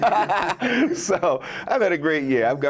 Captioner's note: laughs